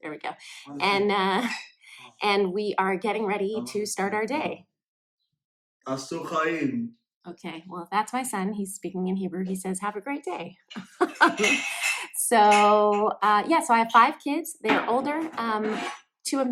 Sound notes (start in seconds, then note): 5.9 speaks in foreign language; 10.8 laughs